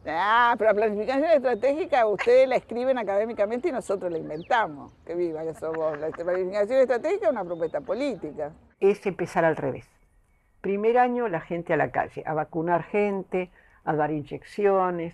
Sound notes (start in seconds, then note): 5.4 laughs